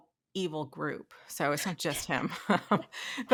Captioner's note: laughing